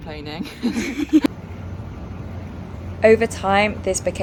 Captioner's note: laughing